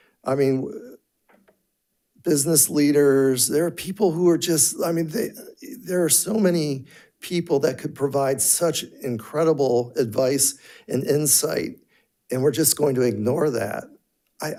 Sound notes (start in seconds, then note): none